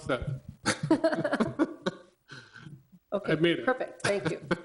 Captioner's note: people laughing